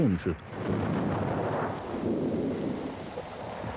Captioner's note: shell booms